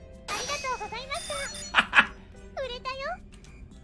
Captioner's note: laughing triumphantly